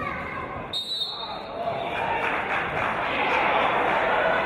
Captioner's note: referee's whistle